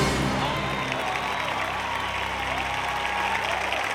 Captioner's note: audience applauding